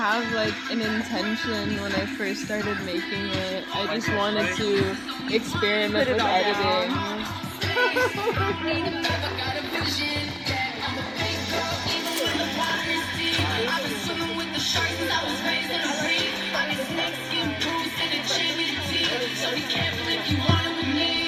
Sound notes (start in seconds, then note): 8.1 laughs